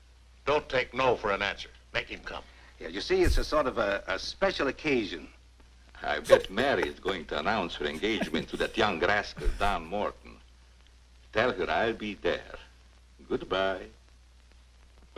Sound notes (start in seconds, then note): 6.2 laughs